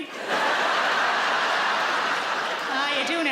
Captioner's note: audience laughs